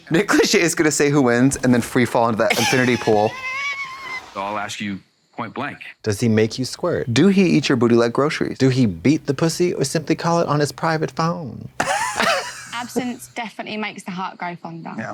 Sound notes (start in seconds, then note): 2.5 Katya wheezes; 11.8 blonde Women giggle